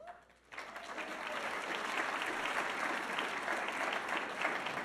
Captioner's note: audience applauding